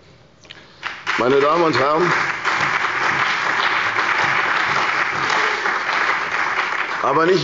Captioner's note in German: Beifall bei der CDU und dem BÜNDNIS 90/DIE GRÜNEN